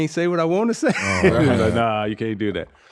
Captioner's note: laughing